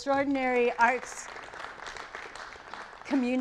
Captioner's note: audience applauds